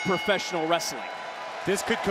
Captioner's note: bell rings